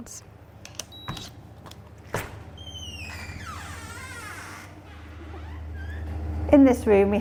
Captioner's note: beeping, door opening